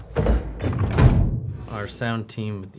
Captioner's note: hatch opens